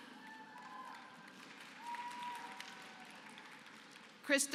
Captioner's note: applause